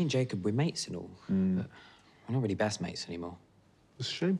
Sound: muffled shouting

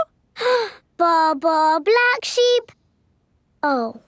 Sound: inhales

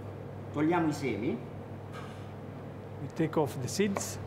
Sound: speaking Italian

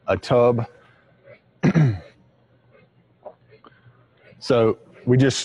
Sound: clears throat

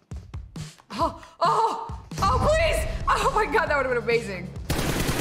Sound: gasp

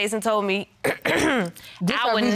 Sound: clears throat

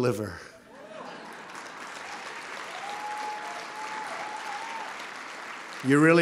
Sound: applause

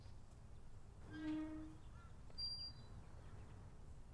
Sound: gate Creaks

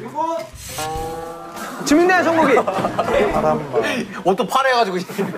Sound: frustrated

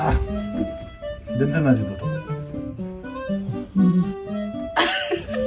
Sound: laughing

